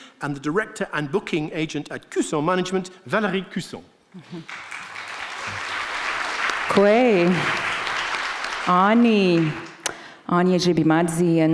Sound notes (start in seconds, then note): 4.2 audience clapping; 6.7 speaking in foreign language